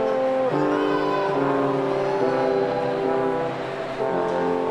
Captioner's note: audience clamoring